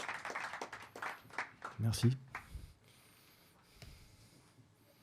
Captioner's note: applause